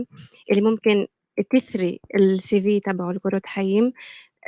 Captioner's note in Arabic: لغة أجنبية